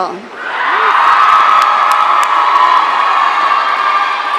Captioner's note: audience cheering